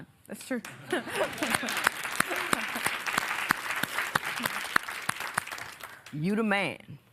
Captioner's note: applause